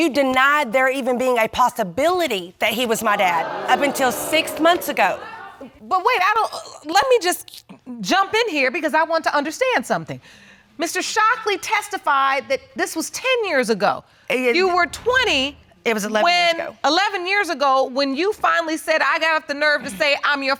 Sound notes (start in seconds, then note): 3.0 audience exclaims